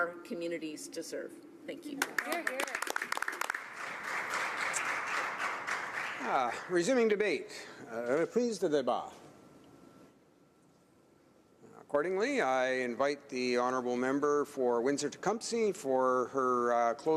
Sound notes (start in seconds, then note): 5.8 applause